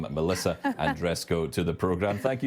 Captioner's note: laughs